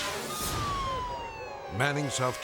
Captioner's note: police sirens wailing